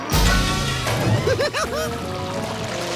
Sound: giggling

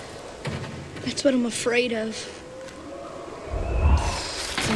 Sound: thumping

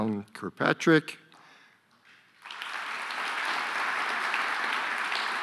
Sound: audience applauding

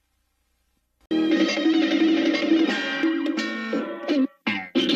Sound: cartoon sounds continuing still

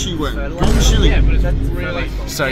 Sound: Vine Boom Sound

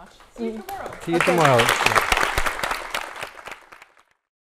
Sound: applause

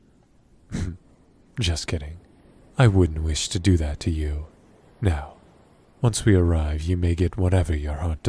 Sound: chuckles

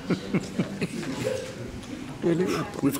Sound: laughs

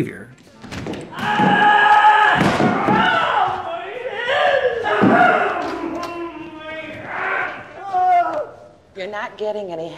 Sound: screaming

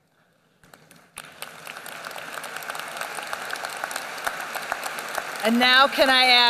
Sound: applause

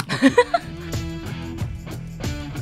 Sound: laughing; upbeat rock music

